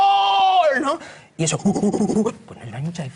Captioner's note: imitates excited primate